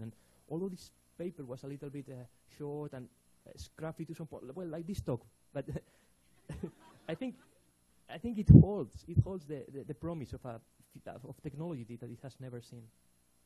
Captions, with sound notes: And, although this paper was a little bit short and scrappy to some point, well, like this talk (laughs), but, (audience laughing) I think it holds. It holds the promise of technology, that it has never seen.